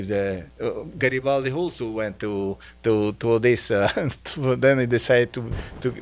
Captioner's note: chuckling